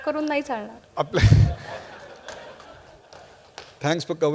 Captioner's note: laughter